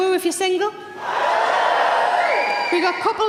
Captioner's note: audience cheering